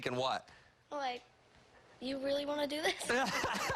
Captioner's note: laughter